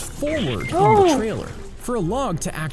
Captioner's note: gasps